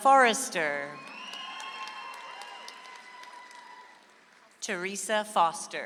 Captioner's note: audience applauds